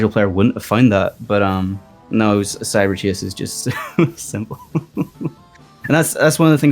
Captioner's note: laughs